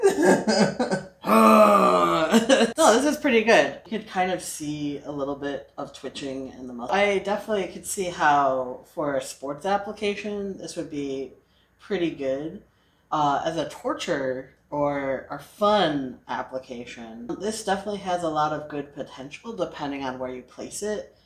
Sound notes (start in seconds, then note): 0.0 growls like a big strong manly man